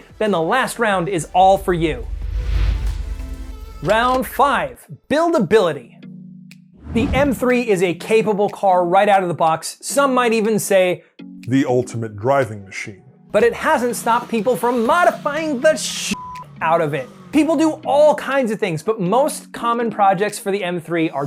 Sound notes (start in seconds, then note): 16.1 beep